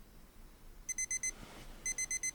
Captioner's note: alarm beeping